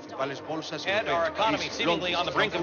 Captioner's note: newscasters speaking foreign languages